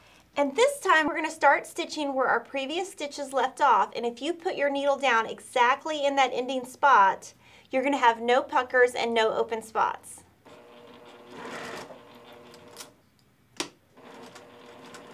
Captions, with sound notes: and this time we're gonna start stitching where our previous stitches left off. And if you put your needle down exactly in that ending spot, you're gonna have no puckers and no open spots. (stitching)